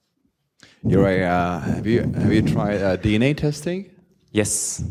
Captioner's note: voiceover